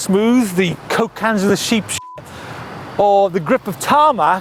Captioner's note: beep